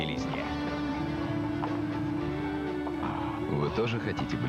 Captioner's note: upbeat music; click of heels